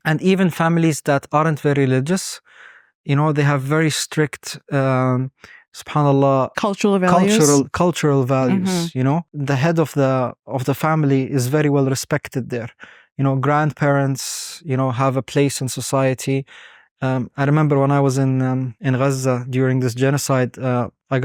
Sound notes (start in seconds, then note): 4.4 speaking Arabic